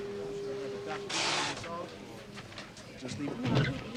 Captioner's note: people chattering